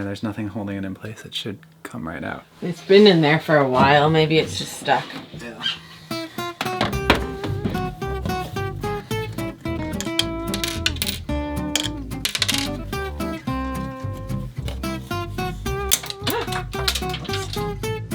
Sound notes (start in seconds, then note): 7.0 upbeat jazz music; 10.9 screws clinking; 16.1 parts snapping